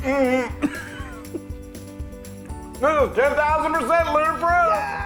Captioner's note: laugh